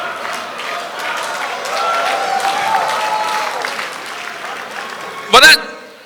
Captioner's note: audience applause